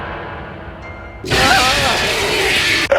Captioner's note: beast roaring